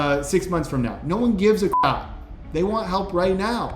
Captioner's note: beep